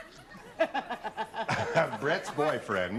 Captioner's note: laughter